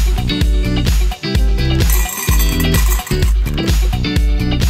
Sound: rattling

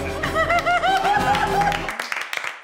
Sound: laughing; crew clapping

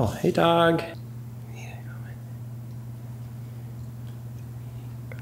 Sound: intense whispering

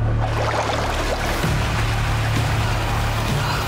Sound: water splashing

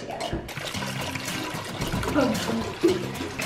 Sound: water pouring; lighthearted guitar music

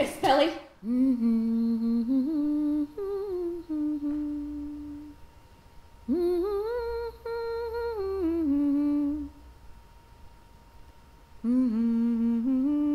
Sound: humming

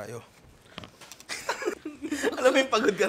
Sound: laughter

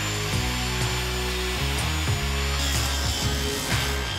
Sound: rock music; saw buzzing

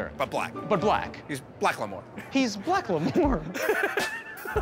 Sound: laughs; laughter

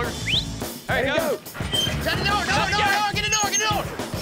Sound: whistles, yelling

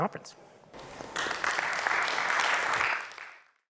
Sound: audience clapping

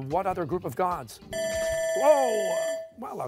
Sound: buzzer

